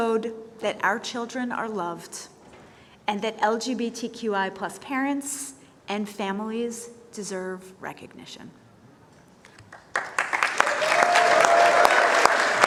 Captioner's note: applause